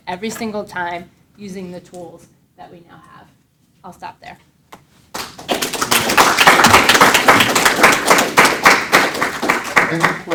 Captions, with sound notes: every single time, using the tools that we now have. I'll stop there. (audience applauds)